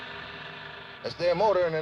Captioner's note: car motor